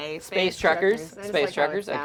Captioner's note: overlapping chattering